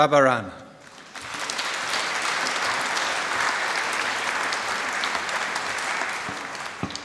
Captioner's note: applause